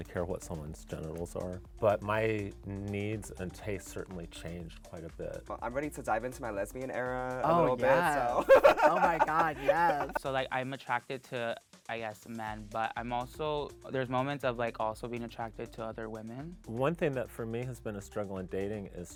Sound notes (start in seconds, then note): 7.5 laughing